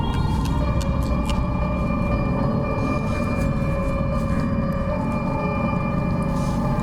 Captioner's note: los huesos crujiendo